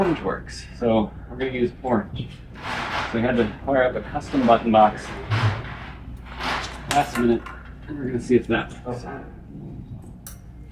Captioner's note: clicky clicky